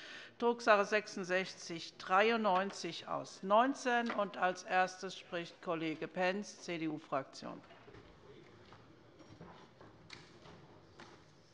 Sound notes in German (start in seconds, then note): none